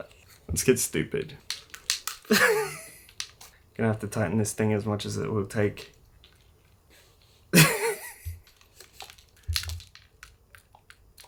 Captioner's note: laughs; laughs again